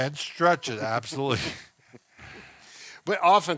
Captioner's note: both chuckle